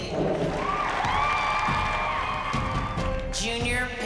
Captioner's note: applause